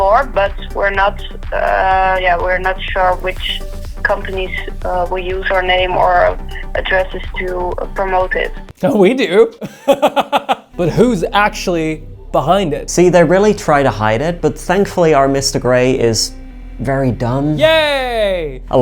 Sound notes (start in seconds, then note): 9.6 laughing